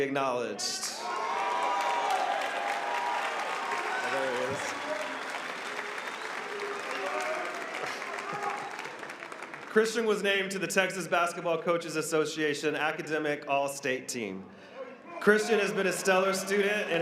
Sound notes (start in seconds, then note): 6.6 applause